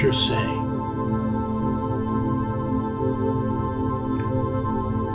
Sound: ambient tone, underlying

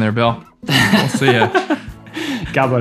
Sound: all laughing

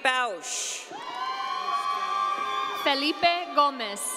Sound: audience cheering

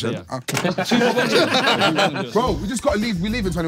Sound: everyone laughing

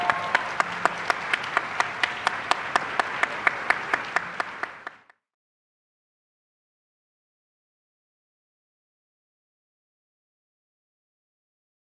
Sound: applause

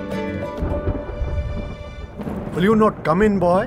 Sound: thundering

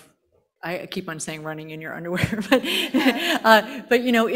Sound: panel chuckling

